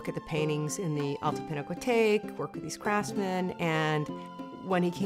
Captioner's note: foreign language